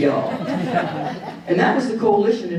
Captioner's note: audience chuckling